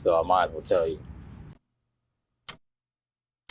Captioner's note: clock ticking